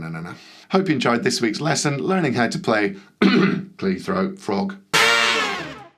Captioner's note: coughs